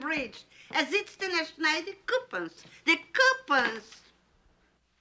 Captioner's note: foreign language